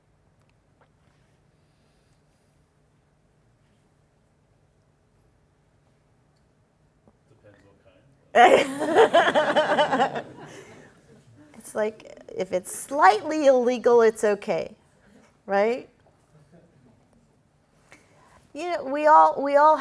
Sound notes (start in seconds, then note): 10.5 laughter